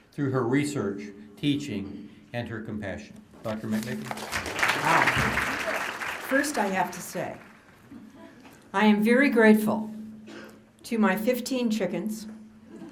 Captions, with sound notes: THROUGH HER RESEARCH, TEACHING, AND HER COMPASSION. DOCTOR MCMICKEN. [APPLAUSE] >> WOW. FIRST I HAVE TO SAY I AM VERY GRATEFUL TO MY 15 CHICKENS.